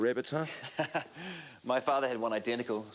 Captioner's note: Graham chuckles